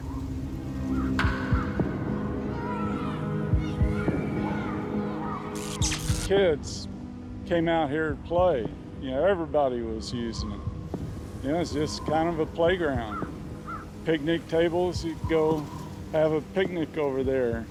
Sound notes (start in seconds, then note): 0.9 children's voices